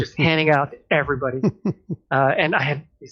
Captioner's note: laughter